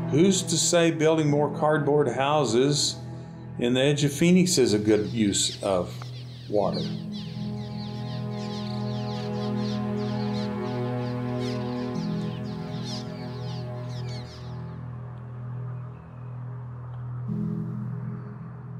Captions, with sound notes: Who's to say building more cardboard houses in the edge of Phoenix is a good views of water. (acoustic tune) (birds chirping)